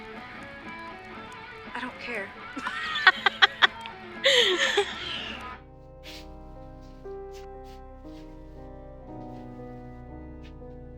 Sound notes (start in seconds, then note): 2.5 laughter; 6.5 mysterious music